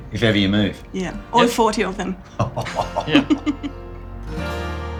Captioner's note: laughs